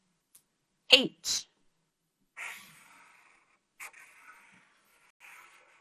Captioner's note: marker scraping